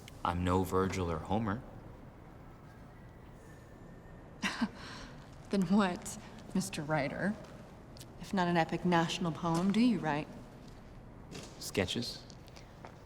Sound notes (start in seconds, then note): 4.3 laughs